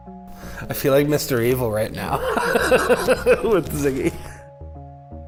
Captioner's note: laughs